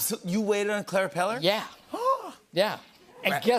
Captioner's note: gasps